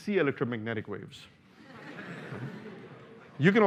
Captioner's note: laughter